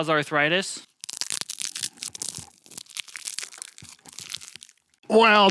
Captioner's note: knuckles cracking